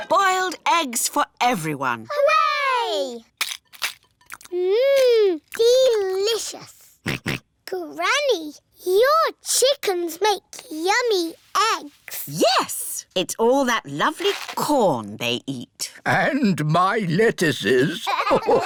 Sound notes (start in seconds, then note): 7.0 george oinks